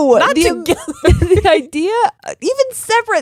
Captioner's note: laughing